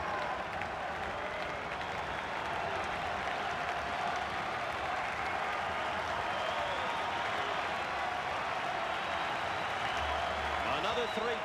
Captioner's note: applause